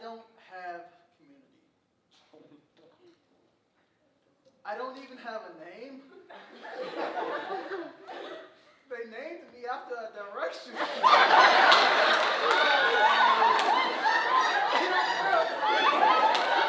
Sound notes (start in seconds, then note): 6.2 audience laughing; 10.7 audience loudly laughing